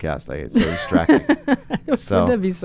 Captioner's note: laughs